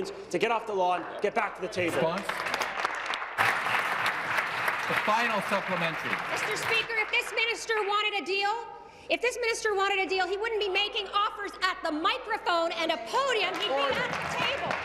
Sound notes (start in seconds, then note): 7.0 applause